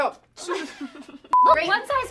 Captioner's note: laughs